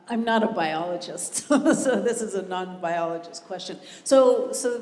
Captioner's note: laugh